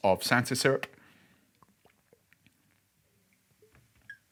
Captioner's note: liquid pours